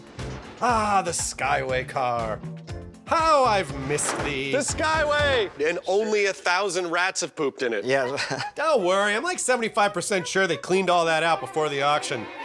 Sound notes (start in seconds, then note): 7.9 chuckles